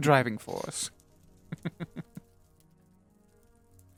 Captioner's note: laughs